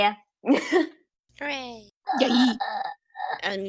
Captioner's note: dying gremlin noises